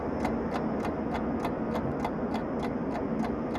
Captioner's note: ticking clock grows louder